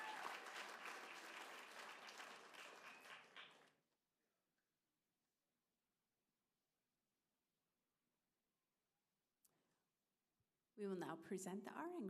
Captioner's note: applause